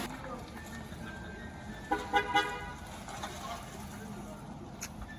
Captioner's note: car honks goodbye